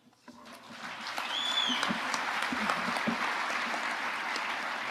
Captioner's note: audience applauding